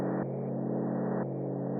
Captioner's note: none